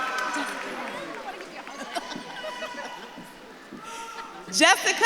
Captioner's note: audience claps and cheers; audience member shouting